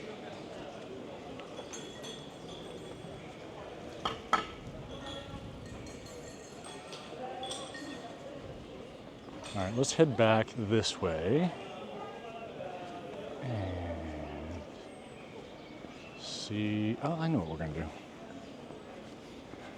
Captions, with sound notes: All right, let's head back this way. (children chattering) Oh, I know what we're gonna do.